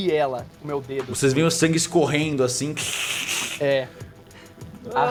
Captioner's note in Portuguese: scresh